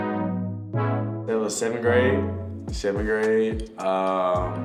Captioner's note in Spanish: Dink